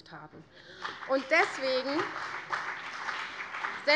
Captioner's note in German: Beifall CDU und BÜNDNIS 90/DIE GRÜNEN